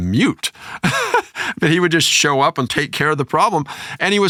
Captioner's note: laughter